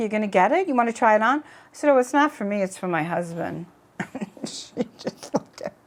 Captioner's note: laughs